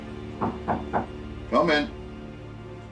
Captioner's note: Ben knocking on door